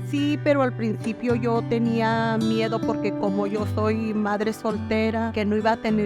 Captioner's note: speaking in Spanish